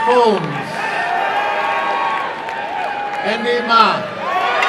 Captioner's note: applause and cheering